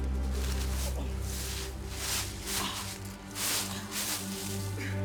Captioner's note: leaves pattering